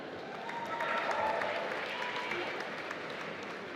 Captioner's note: applause